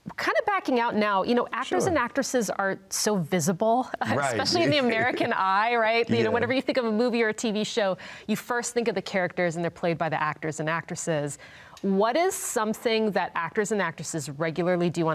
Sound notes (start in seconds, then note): 4.2 both laughing